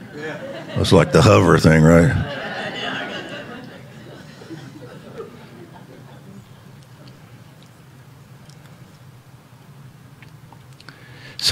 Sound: congregants chattering and laughing

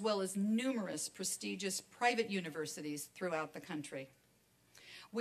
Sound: none

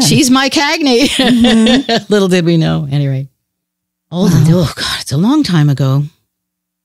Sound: laughs; sighs

